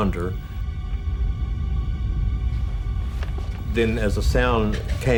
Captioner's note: rumbling